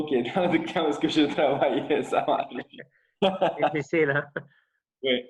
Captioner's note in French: rires